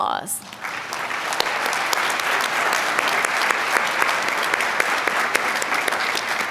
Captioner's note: applause